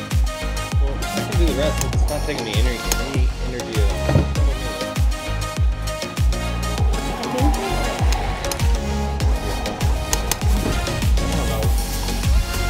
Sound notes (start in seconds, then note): 1.1 indistinct conversation